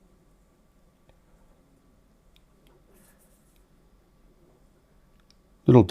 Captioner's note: silence